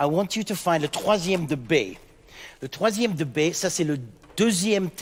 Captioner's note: speaking in French